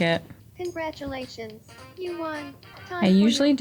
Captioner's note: game audio